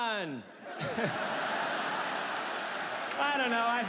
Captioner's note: audience laughs